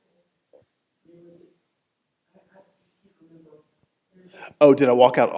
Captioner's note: faintly speaking